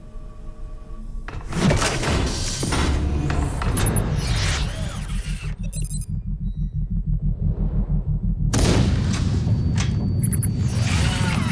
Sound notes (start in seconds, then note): 1.3 thudding and running; 3.2 readout sliding and beeping; 8.3 thudding